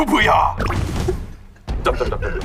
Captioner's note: the original writer can't stop laughing